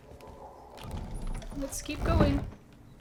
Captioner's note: wood creaks